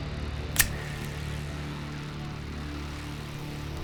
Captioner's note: lighter clicks